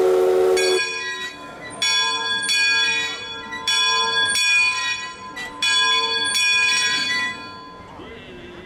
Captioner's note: whistle sounding; bell ringing